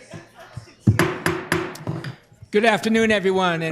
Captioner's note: gavel striking